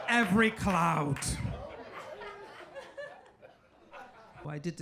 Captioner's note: audience laughing